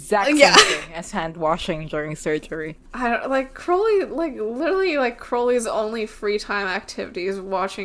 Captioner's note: laughs